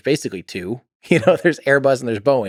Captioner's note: Tim laughs